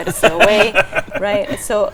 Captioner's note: chuckling